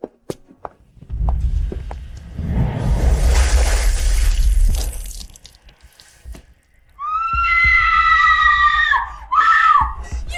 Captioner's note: screaming